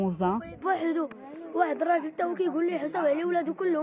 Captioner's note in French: propos en arabe